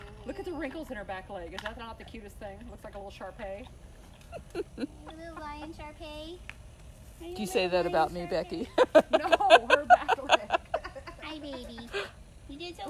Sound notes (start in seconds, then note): 7.1 laughter